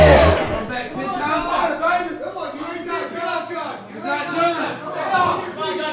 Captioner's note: audience cheering